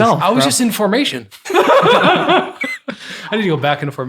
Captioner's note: group laughing